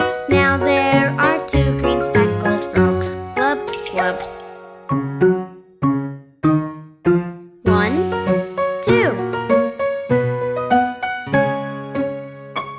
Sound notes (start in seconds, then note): 3.4 water splashing; 5.2 quirky piano music